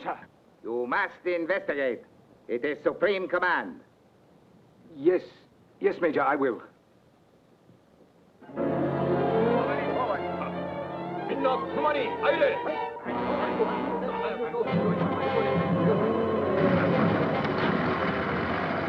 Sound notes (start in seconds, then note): 8.7 chaotic orchestral music; 11.9 soldiers speaking Japanese; 15.0 daunting orchestral music